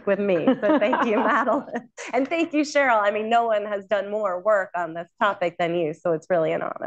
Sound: laughter

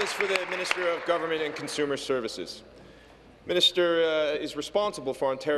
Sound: applause

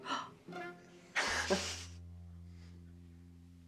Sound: both chuckle

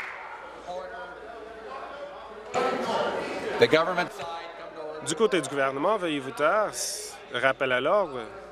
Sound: conversation din

